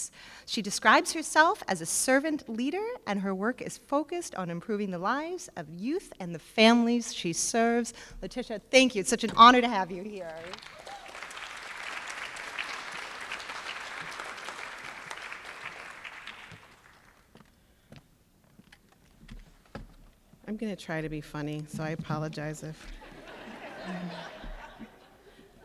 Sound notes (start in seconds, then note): 10.2 applause